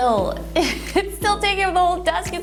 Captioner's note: laughs